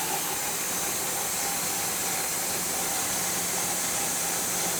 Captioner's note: saw humming continues